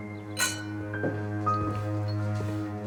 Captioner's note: clink